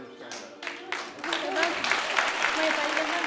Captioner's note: clapping